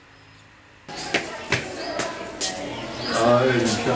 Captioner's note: far kid voices